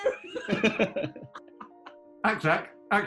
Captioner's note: laughter